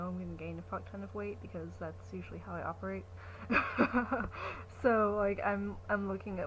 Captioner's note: laughs